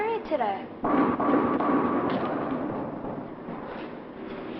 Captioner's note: bowling pins clatter